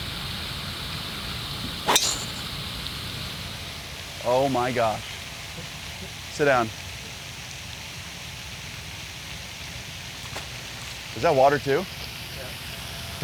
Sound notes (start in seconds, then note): none